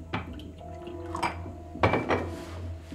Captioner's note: glass thudding; tense music; liquid pouring; glasses thudding; paper rustling; tense music